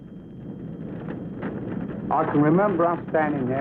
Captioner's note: fires crackling